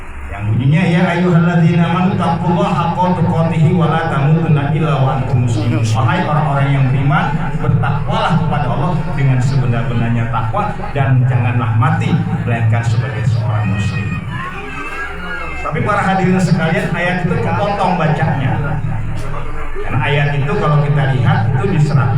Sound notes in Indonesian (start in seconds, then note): 8.1 tertawa